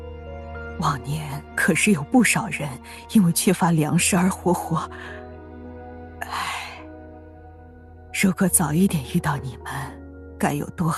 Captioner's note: sigh